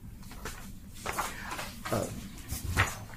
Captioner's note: papers shuffling